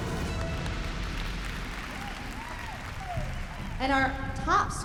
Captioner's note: applause, cheering